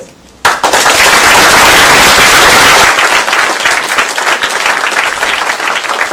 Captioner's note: applause